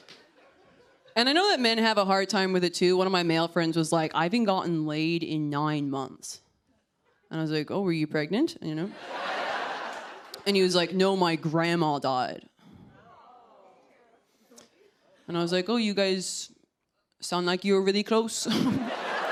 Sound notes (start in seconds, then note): 13.0 audience awws